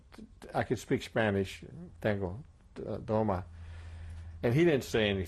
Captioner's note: speaking spanish